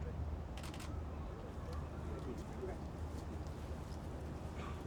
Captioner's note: camera clicks